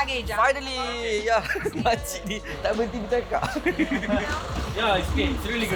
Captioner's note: laugh